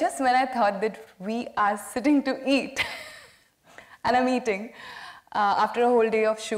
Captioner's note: laughs